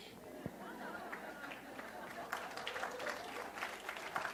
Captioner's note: audience applause